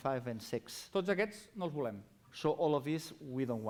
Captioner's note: non-english speech